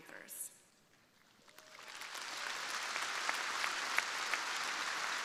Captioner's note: crowd applauding